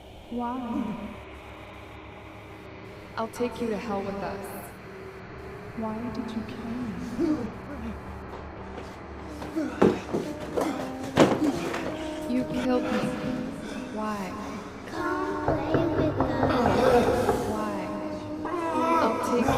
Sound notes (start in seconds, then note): 7.3 Kenny gasps; 15.4 knocking on the door